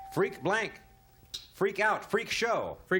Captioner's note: ding